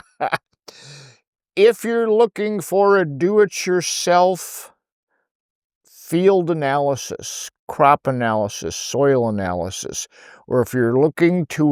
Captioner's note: laughing